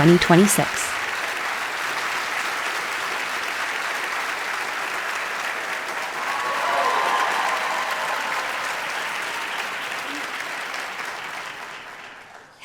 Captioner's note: audience applause